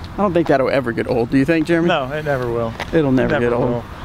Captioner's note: none